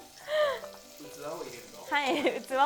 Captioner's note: laughter